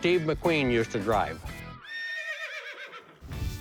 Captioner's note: horse whinnies